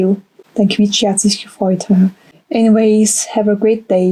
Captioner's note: German